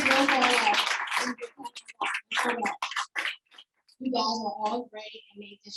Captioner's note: audience applauding